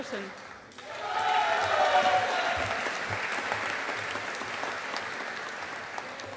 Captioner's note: audience applauding